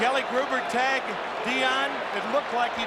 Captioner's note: booing